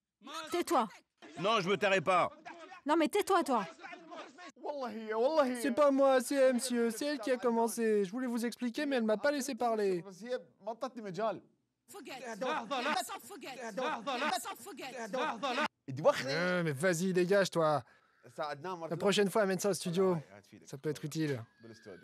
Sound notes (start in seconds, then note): 11.8 arab spoken audio